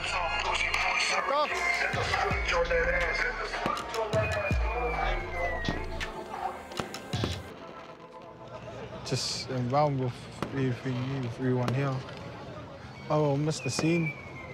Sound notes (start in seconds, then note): 0.0 hip hop music; 3.6 fireworks pop